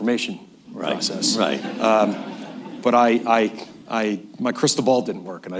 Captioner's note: laughter